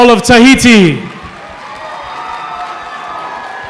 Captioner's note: applause